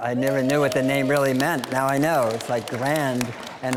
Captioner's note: scattered applause